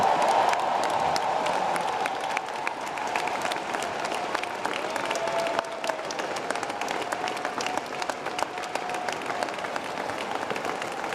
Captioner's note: applause